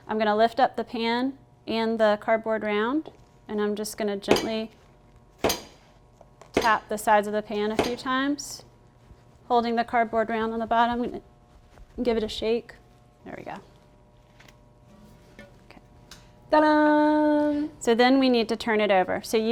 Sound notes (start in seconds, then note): 4.6 tapping